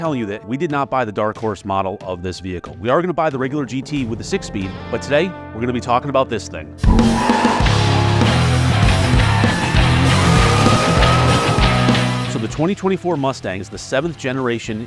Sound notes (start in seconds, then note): 6.8 tire squeal